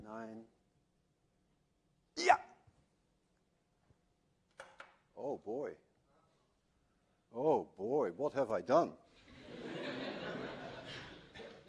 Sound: laughter

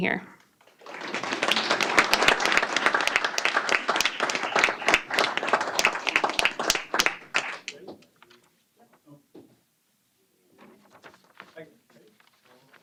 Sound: applause

